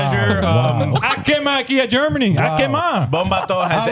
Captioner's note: speaking In Foreign Language